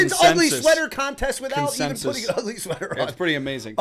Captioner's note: chuckle